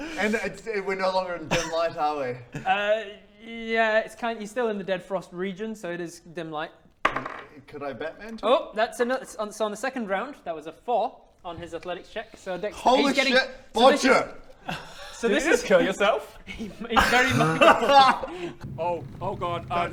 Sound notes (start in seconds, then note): 16.3 cruel, totally deserved laughter